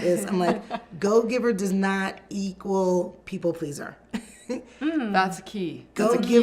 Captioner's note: laughs